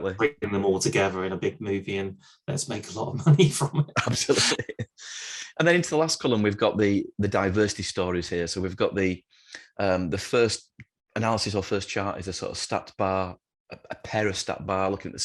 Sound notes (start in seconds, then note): 3.6 laughs